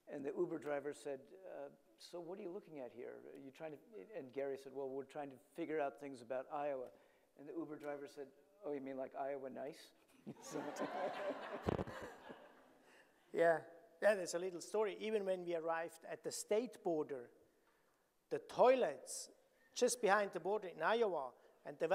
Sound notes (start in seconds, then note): 10.4 audience laughing